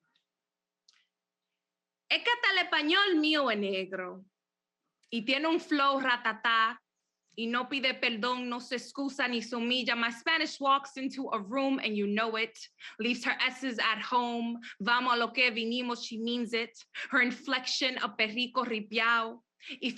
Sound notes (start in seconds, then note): 1.0 speaks Spanish; 15.2 speaks Spanish